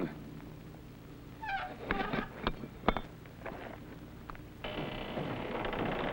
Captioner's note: latch squeaks; door creaks